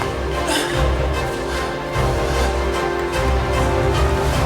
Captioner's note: Sanford grunting